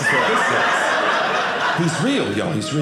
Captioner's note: audience laughing